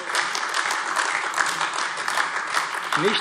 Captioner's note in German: Beifall AfD